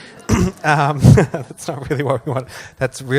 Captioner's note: laughs